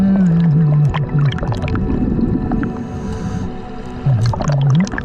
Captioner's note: muffled underwater speaking